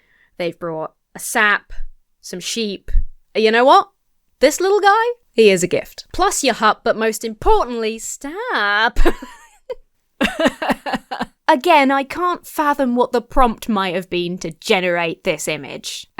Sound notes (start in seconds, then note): 10.2 sobs; 10.2 laughs